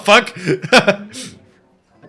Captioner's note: laughing